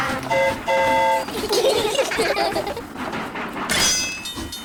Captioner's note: train horn toots; all giggle; tinging